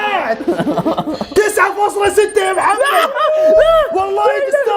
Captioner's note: laughing; laughing in disbelief